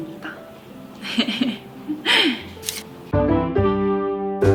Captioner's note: heh heh